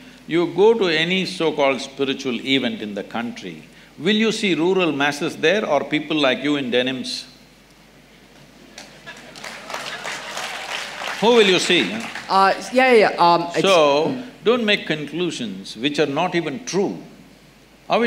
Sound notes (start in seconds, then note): 8.7 applause